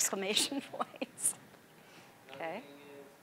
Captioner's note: laughing